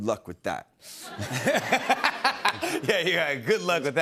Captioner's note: laughter